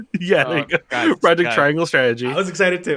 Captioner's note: laughs